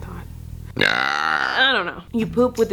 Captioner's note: loudly belches